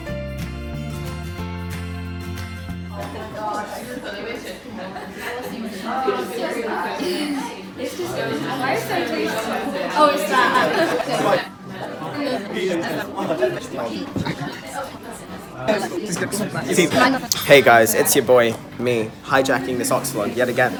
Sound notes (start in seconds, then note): 3.9 chatter